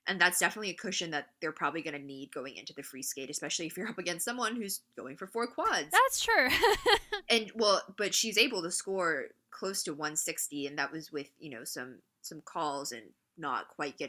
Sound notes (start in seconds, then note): 6.2 laughs